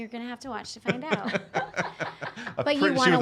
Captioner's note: laughing